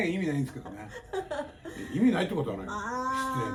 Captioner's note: laughs